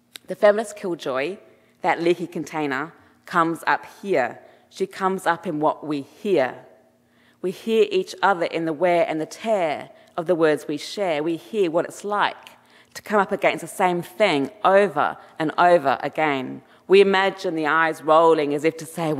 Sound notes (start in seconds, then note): none